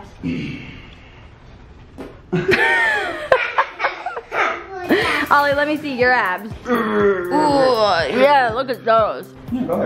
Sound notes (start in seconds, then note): 2.3 all laughing